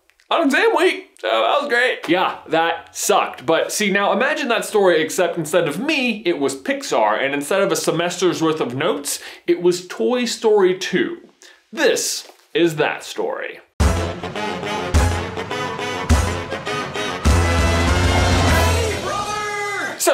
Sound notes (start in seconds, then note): 1.1 sarcastically